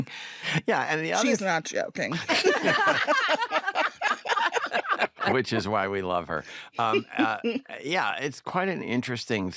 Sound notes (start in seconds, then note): 2.2 all laugh